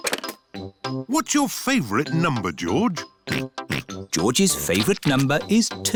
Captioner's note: snorts